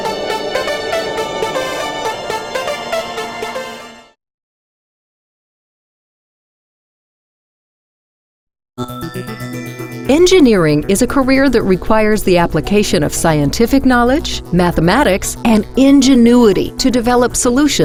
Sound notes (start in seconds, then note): 10.3 voiceover